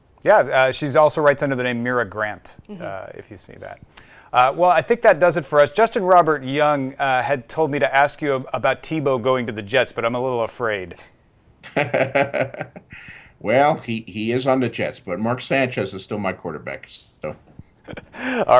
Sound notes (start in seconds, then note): 11.6 laughing